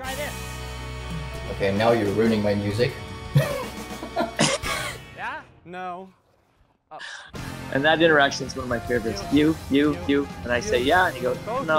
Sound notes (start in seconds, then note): 3.3 laughs